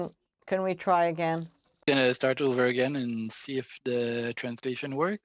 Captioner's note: speaking French